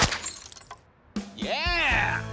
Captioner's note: gunshot